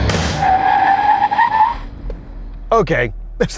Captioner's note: car braking